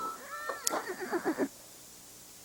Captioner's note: horse neighs